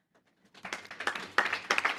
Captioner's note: applause